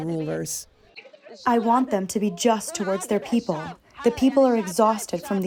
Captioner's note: through translator